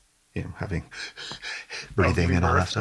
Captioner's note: panting